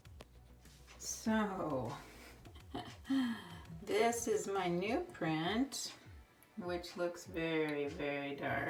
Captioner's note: laughs